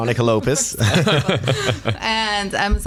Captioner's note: laughter